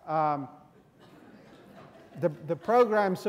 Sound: students laughing

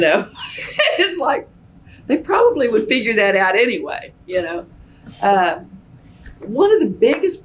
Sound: laughs

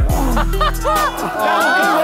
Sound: laughs

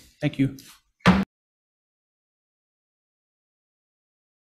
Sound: gavel pounding

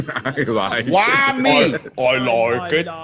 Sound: laugh

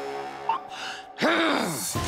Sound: growling

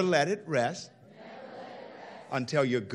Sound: crowd

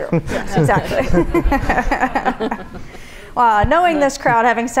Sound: audience laughs

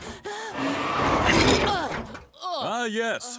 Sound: Huey groaning

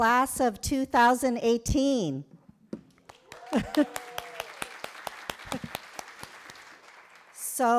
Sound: applause

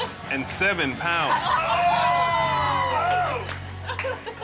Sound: group cheers

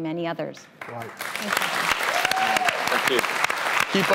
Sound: applause

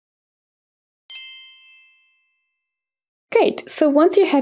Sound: bells chiming

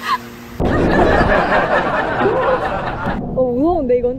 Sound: laughing

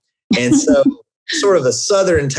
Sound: laughs

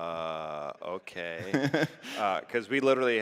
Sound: laughs

